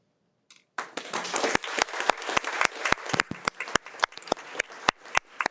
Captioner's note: participants applauds